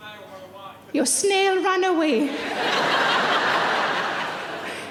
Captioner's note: laughing